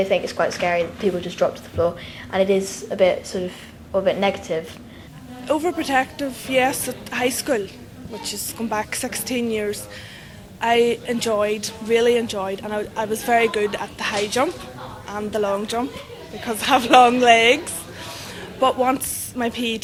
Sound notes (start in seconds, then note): 18.1 laughs